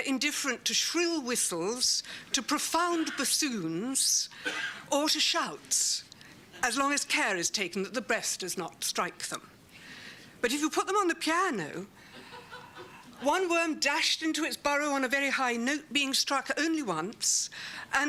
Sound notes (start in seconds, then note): 12.1 laughter